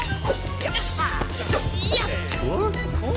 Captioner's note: metallic clanking; grunting